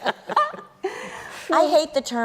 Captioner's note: laughter